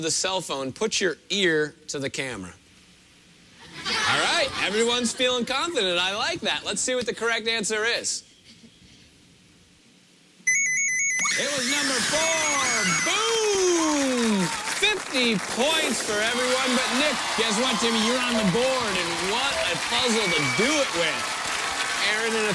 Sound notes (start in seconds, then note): 10.4 high-pitched ringing